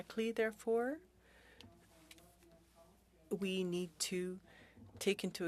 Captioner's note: speaking French